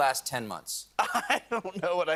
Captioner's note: laughs